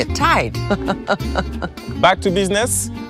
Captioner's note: laughs